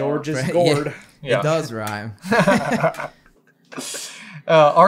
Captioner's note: laughter